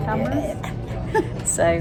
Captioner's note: laughs